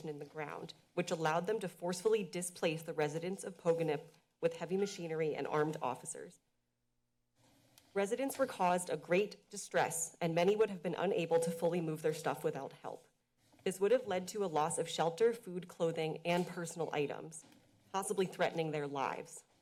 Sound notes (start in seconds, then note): 6.5 pause